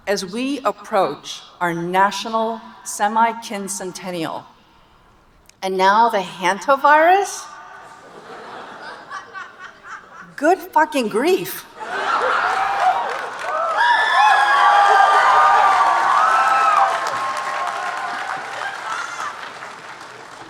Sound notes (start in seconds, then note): 7.8 audience laughing; 11.7 audience laughing, cheering, and applauding